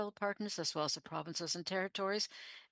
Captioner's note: speaking French